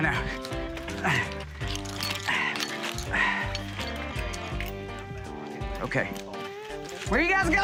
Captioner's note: grunting